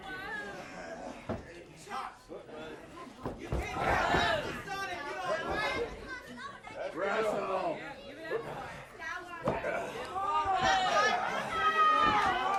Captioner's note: crowd chatter